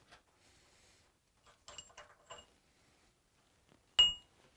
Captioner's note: metal clanging